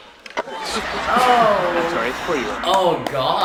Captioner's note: canned laughter